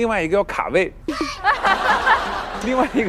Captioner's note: can't stop laughing